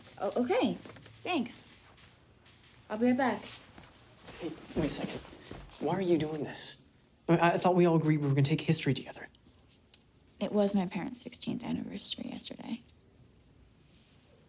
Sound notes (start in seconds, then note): none